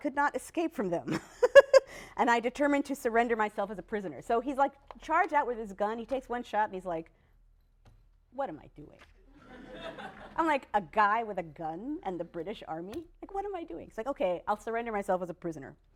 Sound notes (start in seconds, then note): 0.8 laughs; 9.3 laughter